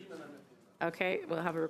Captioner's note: speaking French